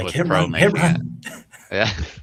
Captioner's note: laughs